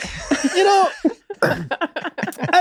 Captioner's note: everyone laughs